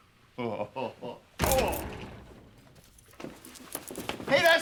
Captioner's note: door thuds open